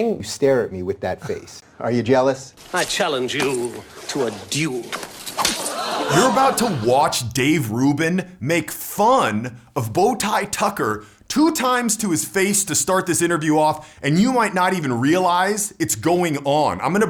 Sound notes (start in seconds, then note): 5.6 crowd gasps